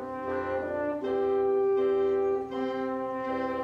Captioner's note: none